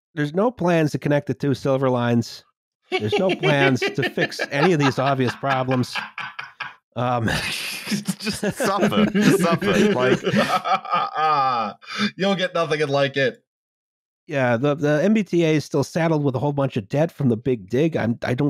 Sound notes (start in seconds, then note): 2.9 mini-Joker laugh; 7.0 laughter